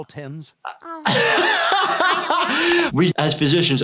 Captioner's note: laughing